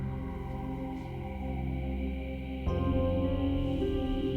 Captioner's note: ghostly sighs